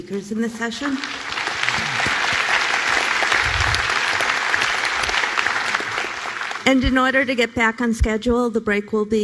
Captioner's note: applause